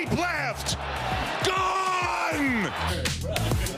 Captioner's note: applause